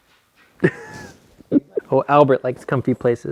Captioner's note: laughs